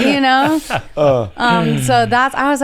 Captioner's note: laughs